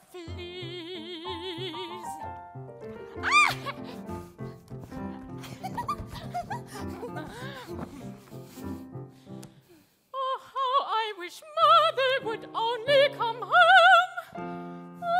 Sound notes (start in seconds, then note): 3.5 both giggling; 3.5 quirky piano music